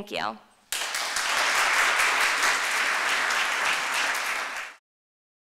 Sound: applause

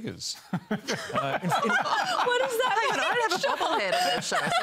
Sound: laughter

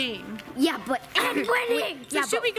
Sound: clears throat

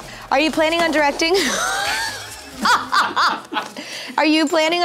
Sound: laughter

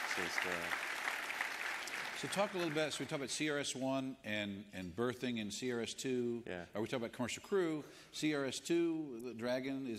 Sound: applause

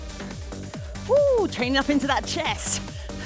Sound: exclaiming

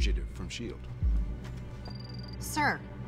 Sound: computer beeps

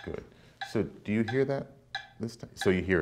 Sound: ticking

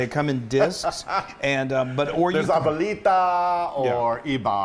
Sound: laugh

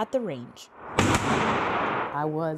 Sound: gun firing

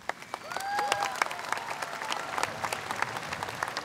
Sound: cheers & applause

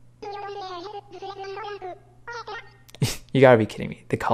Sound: "my guy" continues in Animalese

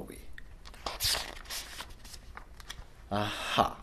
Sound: pages turning

